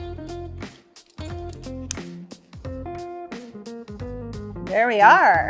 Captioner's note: clasp clinking